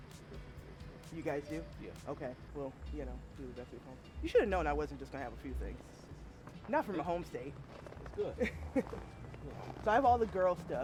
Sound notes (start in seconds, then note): 8.0 laughing